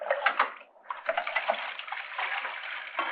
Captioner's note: water pouring